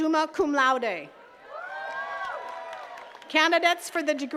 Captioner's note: attendees cheering and clapping